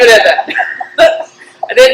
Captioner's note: laughter